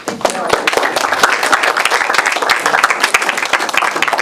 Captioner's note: applause